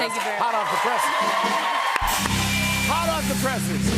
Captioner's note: cheers and applause